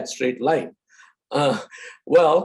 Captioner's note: laughs